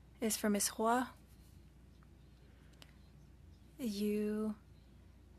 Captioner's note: speaking French